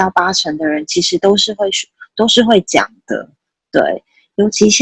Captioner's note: Mandarin